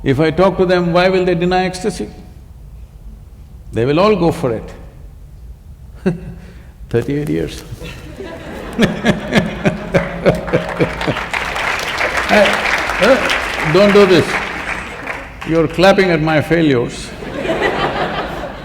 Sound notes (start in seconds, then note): 7.4 laughter/Applause; 17.1 laughter